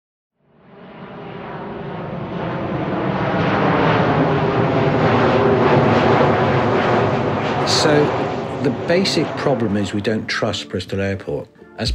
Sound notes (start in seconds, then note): 0.4 plane engine roaring